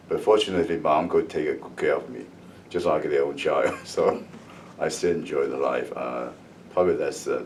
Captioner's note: laughs